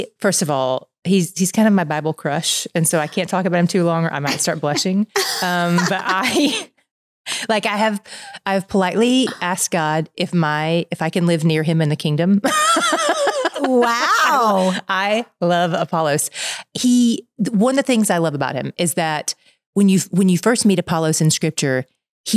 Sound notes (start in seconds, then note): 5.2 chuckles; 12.5 laughing